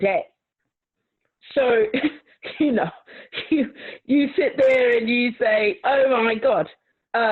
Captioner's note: laughs